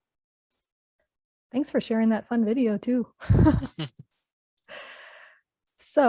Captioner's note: laughs